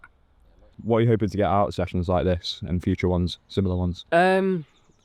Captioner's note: voiceover